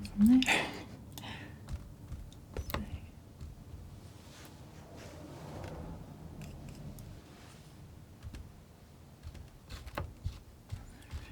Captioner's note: scratching